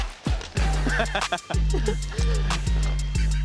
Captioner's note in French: rires